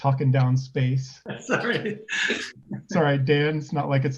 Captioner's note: laughs